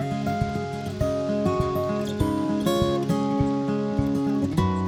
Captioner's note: wind rustling leaves